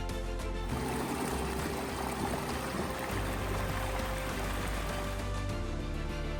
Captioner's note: running water sound